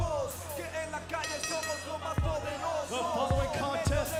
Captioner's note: bell ringing